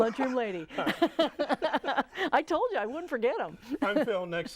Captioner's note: laughing